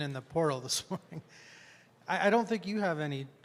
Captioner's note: chuckles